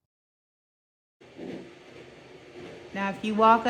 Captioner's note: light machine noise